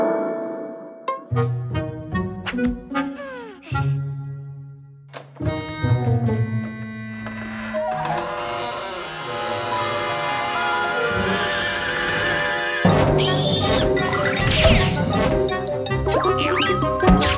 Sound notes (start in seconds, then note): 7.3 door's creaking; 13.1 Om Nom's yelling